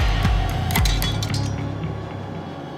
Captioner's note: tiny metal hammer hitting